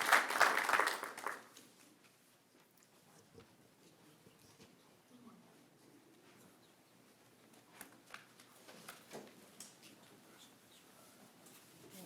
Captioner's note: applause